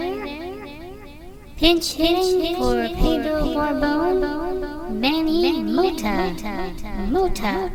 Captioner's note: echoing